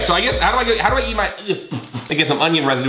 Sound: spitting

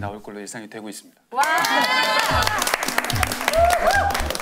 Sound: applauding hard to make it up for it

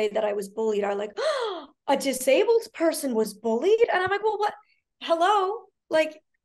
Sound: gasp

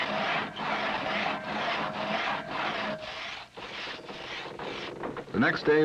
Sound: loud sawing

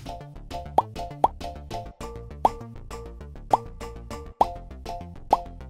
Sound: upbeat music; items make popping sound

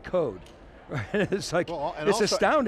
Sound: laughs

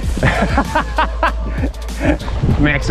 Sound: man laughs

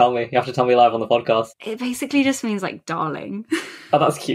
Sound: laughs

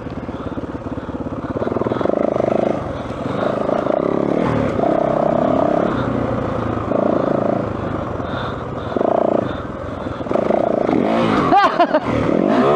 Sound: laugh

